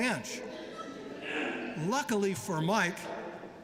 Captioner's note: laughter